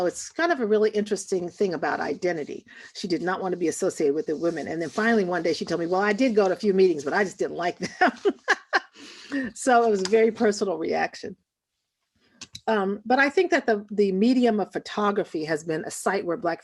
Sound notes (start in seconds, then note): 8.0 laughs